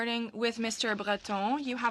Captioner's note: speaking french